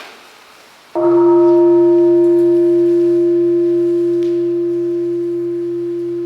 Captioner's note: bell ringing